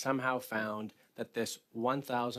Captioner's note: speaking French